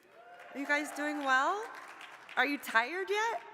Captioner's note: audience members clapping